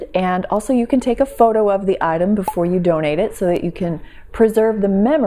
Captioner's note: pop